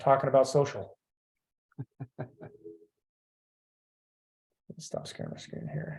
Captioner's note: laughing